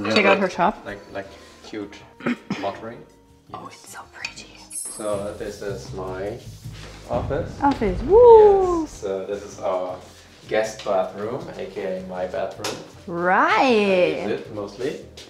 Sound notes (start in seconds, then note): 8.0 cheers